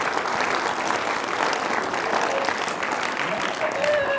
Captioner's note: applause